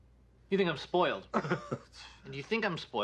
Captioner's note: laughs